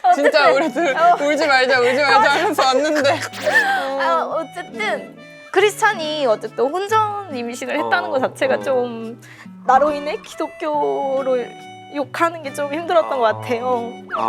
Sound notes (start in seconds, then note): 3.4 holding back tears